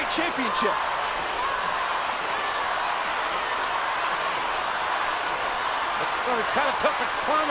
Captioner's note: applause